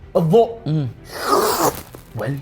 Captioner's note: slurps